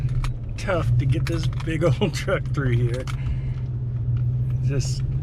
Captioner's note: chuckles